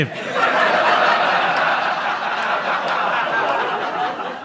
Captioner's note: audience laughs